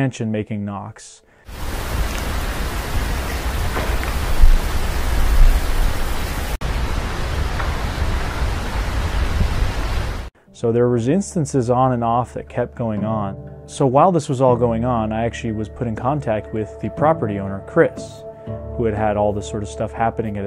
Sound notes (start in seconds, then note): 3.7 audio knocking